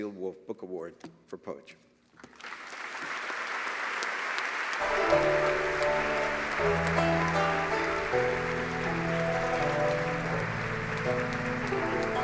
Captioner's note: applause